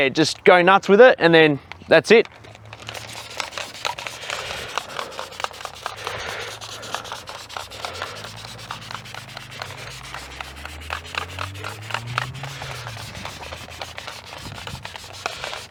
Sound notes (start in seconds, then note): 3.1 sprayer hissing